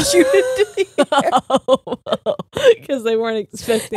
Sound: laughs

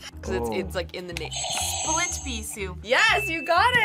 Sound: buzzer rings

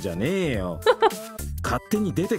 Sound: chuckles

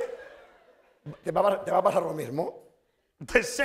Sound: speaking spanish

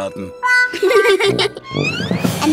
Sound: laughing

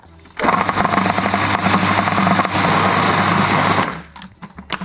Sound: food processor whirring

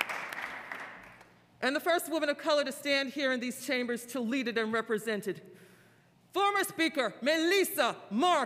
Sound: applause

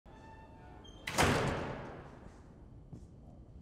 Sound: door thudding

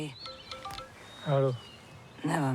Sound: phone chimes

